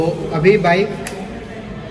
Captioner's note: switch clicks